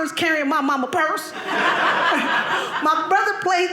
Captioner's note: audience laughing